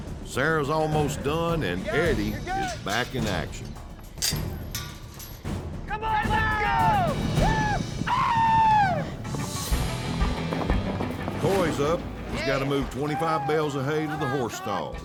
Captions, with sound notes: SARAH'S ALMOST DONE AND EDDIE IS BACK IN ACTION. [CLANKING SOUND] COME ON, LET'S GO! [SHOUTING] COY'S UP AND HE'S GOTTA MOVE 25 BALES OF HAY INTO THE HORSE STALLS.